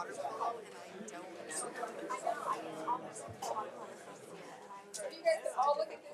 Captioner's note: speaks faintly